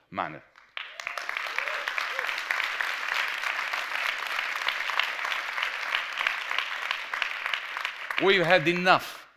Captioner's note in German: Applaus